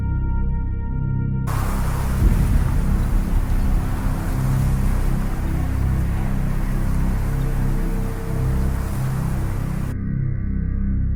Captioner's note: voice calling echoes distance